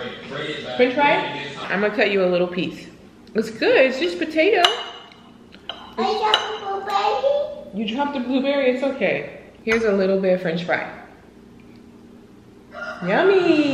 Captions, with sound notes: I'm gonna cut you a little piece. It's good, it's just potato. (baby talk) You dropped a blueberry? It's okay, here's a little bit of french fry, yummy!